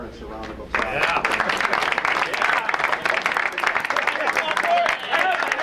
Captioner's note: crowd applauds and cheers